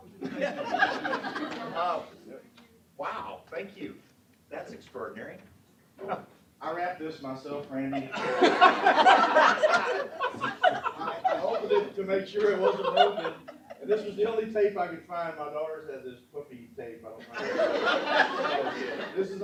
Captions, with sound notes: That's extraordinary. >> I wrapped this myself, Randy. >> [ Laughter ]. >> I opened it to make sure it wasn't open, and this was the only tape I could find. My daughters had this puffy tape I don't like. >> [ Laughter ].